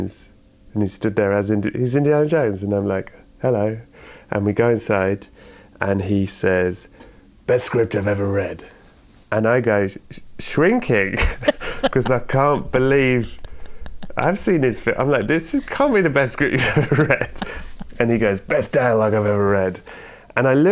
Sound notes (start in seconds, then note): 10.9 laughter; 17.4 laughter